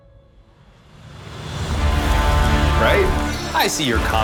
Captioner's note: dramatic music; fire crackling